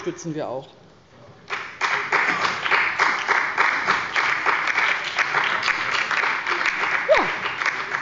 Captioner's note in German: Beifall bei der LINKEN und dem BÜNDNIS 90/DIE GRÜNEN